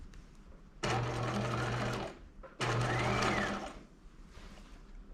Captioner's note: sewing machine whirring